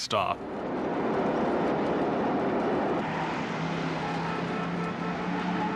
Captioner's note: train and cars whirling